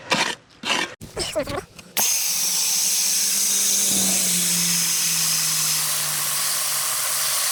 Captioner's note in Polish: nalewanie wody